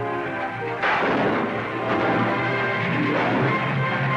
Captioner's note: gunshots